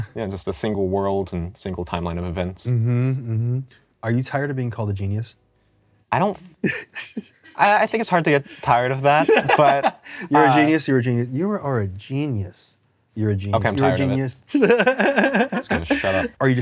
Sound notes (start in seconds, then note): 6.6 giggles; 9.2 laughs; 14.5 laughs